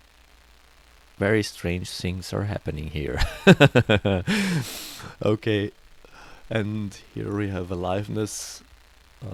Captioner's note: loud laugh